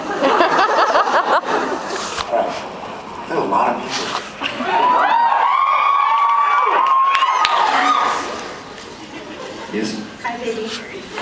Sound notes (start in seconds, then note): 0.1 laughs; 4.5 cheers